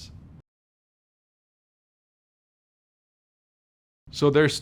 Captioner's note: no audio